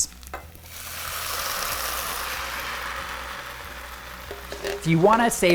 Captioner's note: sauce sizzling